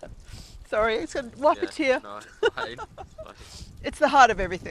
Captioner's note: laughs